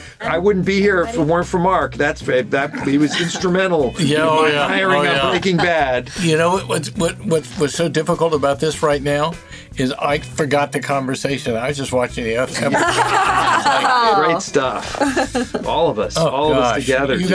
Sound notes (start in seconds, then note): 12.5 all laugh